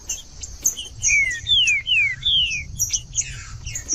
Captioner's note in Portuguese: trinca ferro cantando